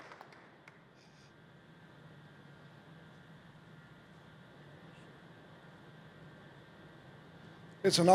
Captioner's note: applause